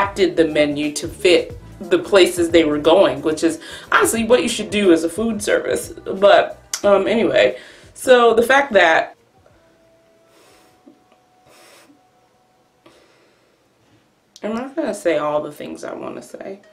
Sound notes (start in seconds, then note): 6.6 smacks mouth